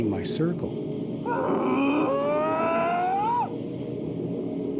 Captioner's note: bigfoot whooping